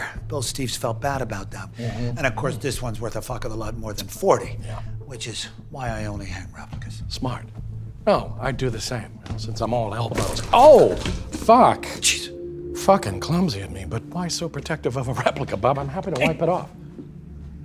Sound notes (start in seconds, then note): 10.1 wine sploshes